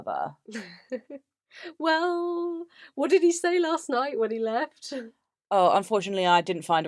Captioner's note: laughs